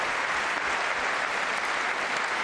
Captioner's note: applause